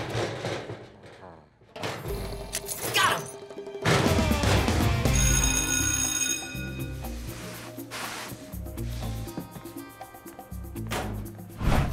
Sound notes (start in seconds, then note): 5.0 bell ringing